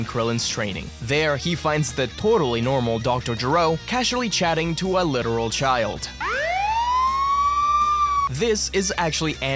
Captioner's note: police sirens